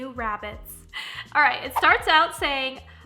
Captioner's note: whooshing